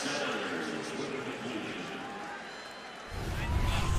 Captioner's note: pa announcement